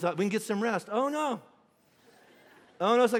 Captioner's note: congregation laughing